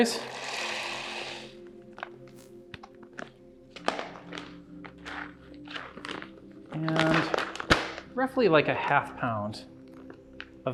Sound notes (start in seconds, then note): 0.0 berries pour; 4.8 bag tears